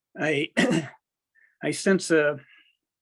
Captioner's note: clears throat